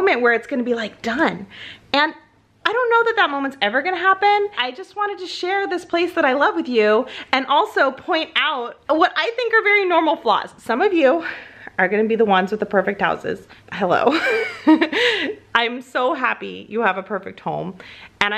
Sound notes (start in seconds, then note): 14.1 laughs